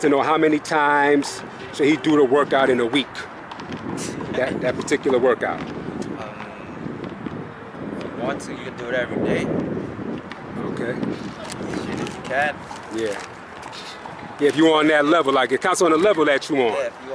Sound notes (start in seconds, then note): 3.3 laughs